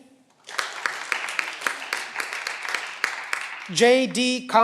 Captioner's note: cheering